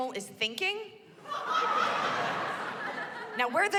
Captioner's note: laughter